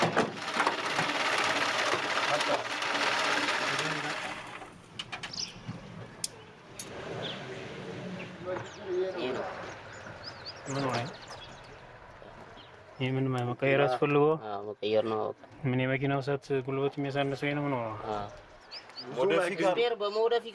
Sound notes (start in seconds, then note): 0.5 car engine revving; 9.1 speaking in foreign